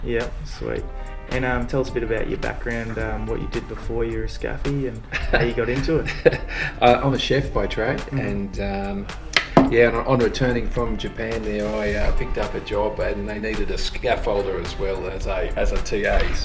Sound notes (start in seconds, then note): 5.0 laughs